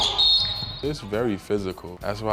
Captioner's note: chattering and squeaking; whistling